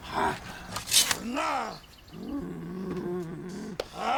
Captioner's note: noose snaps; zombie walter groaning